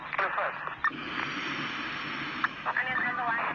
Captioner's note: exhale